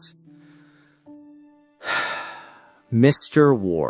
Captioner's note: sigh